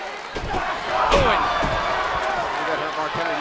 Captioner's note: body thuds